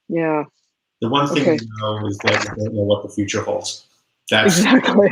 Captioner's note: voice muffled